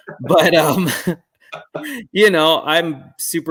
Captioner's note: chuckle